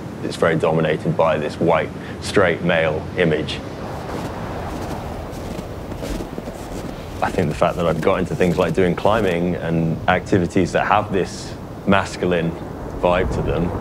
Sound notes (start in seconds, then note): 5.3 snow crunching underfoot